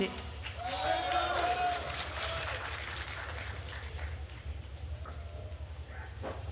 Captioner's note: attendees cheering and applauding